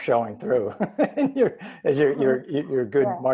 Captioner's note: laughs